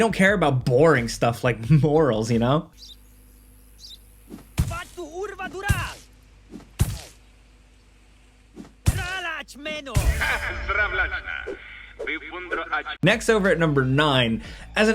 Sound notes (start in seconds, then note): 4.8 character speaks in foreign language; 5.9 attack hits; 8.6 characters speaking in foreign language